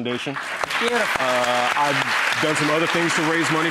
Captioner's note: applause